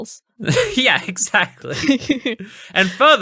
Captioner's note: laughing